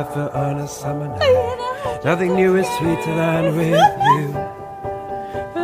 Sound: giggles

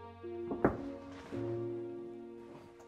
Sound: knock on door

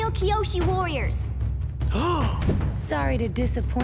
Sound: gasping

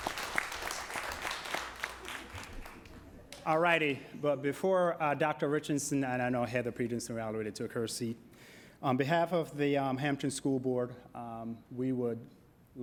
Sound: applause

